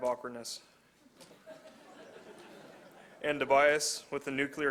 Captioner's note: laughter